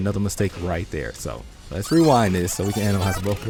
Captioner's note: tape rewinding whine